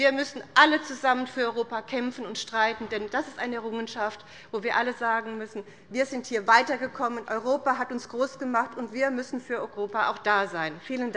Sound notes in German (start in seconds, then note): none